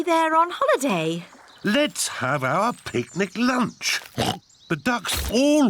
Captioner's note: oinks